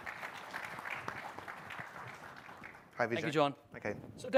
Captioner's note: applause